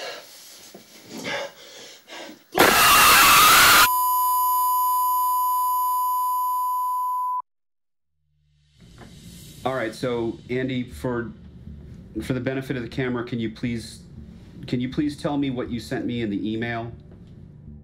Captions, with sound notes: [violent horror noise] [TV signal tone] Alright, so Andy, for the benefit of the camera, can you please, can you please tell me what you sent me in the email?